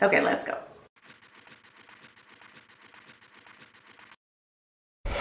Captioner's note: pencil scribbling